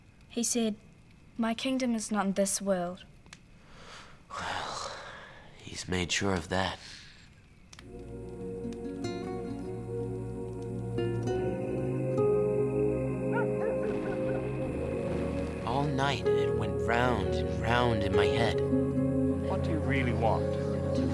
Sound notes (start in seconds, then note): 8.2 gentle music; 13.2 dog barks distantly